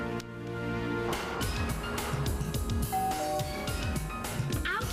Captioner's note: doorbell rings